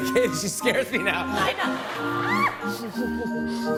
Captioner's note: laughter